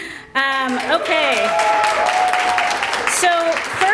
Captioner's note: applause